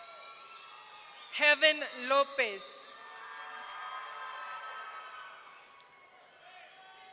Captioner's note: audience cheering